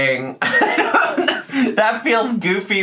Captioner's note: laughing